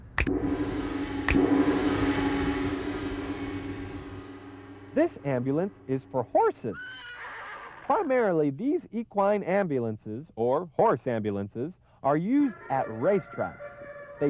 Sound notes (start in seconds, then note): 0.1 finger snaps; 0.2 gong; 1.3 finger snaps; 6.8 horse whinnies